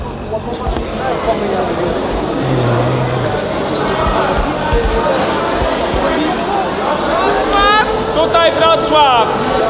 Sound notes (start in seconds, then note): 0.0 chatter